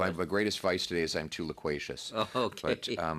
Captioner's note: laughter